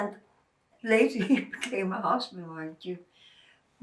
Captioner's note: laughing